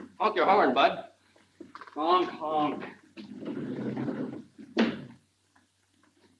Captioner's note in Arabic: صوت احتكاك الأبواب